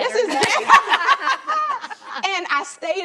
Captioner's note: women laughing loudly